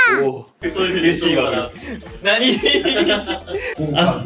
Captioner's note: laughs